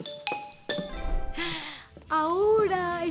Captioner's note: chime